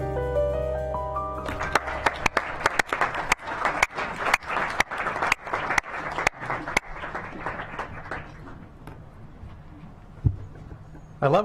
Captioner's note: applause